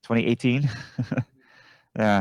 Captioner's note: chuckle